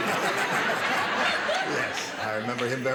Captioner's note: laughter